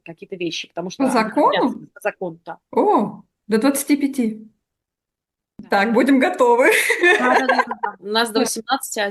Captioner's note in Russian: смех